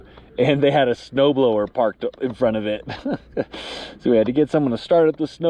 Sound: laughs

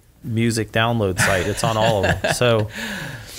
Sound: laughs

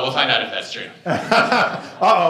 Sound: laughter

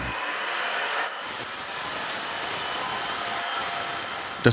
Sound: grinding noises

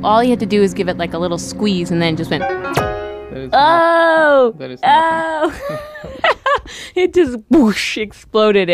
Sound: laughs

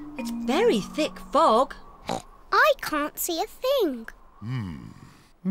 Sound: oinks

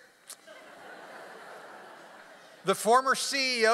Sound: audience laughs

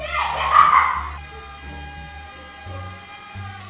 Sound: laughs

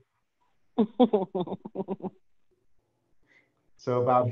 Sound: laughs

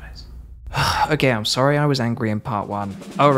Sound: sigh

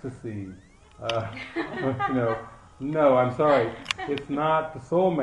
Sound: laughter

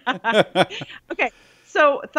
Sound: they laugh

